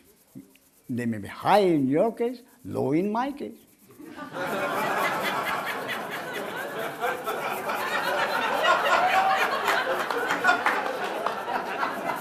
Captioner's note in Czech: smích